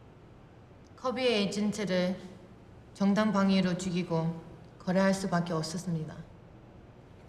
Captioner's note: speaking Korean